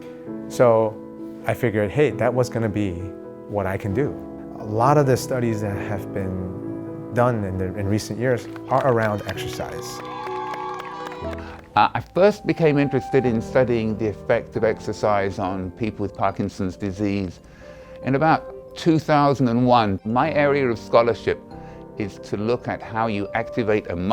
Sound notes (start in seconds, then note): 8.4 people cheering